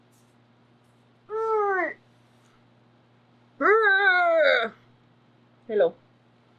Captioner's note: grunts